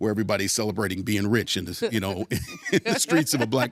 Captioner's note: laughing